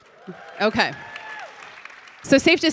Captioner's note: audience cheering